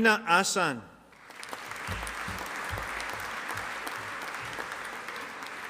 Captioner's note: audience applauding